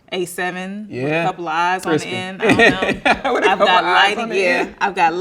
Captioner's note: laughing